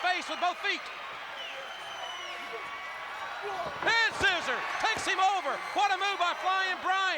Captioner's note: applause